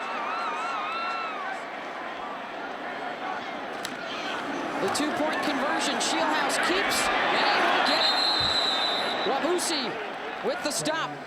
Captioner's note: applause